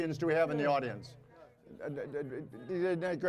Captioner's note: audience chattering